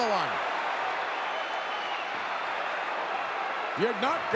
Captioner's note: audience cheering